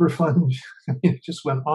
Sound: chuckles

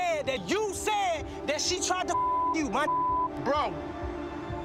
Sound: beep

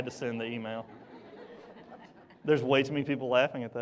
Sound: laughter

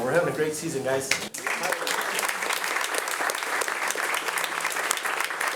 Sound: audience applauding

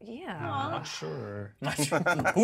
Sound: laughs; speaker laughs

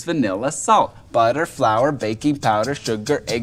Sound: beatboxing begins

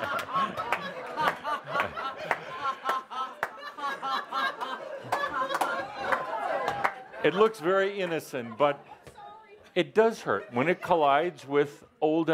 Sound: much laughter

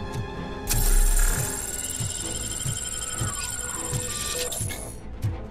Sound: electronic shimmer

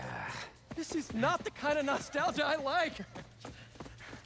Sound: laughing

